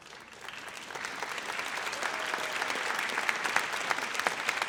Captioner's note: audience applauds